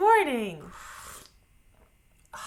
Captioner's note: sips coffee